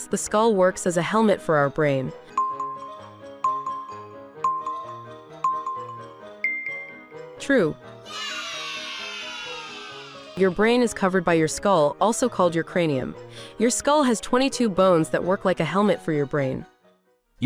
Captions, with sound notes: the skull works as a helmet for our brain. (intriguing music) True! (children cheering) Your brain is covered by your skull, also called your cranium. Your skull has 22 bones that work like a helmet for your brain.